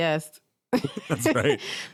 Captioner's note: chuckles